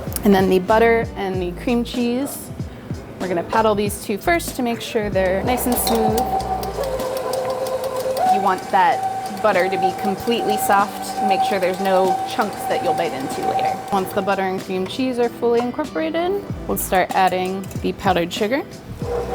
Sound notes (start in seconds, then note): 6.4 machine whirring